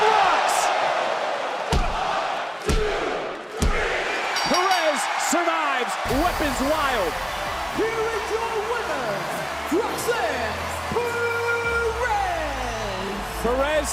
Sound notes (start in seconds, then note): 4.3 bell rings; 7.7 music plays